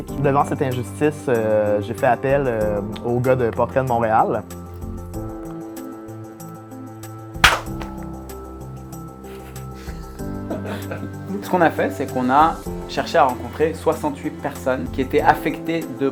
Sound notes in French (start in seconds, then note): 7.4 Claquement; 10.5 Rires